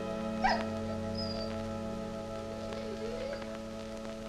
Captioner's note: Red whines and barks